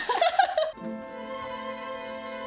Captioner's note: laughs